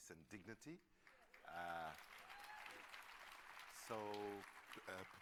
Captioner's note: applause